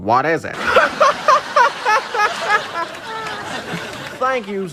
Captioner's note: Jimmy Clamel & studio audience laughing